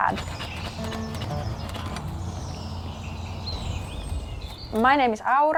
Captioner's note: birds chirping